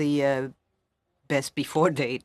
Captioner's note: speaking french